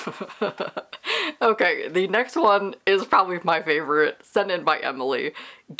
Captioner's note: laughs